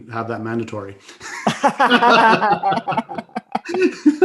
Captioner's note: all laughing